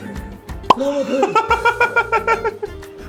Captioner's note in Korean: 웃음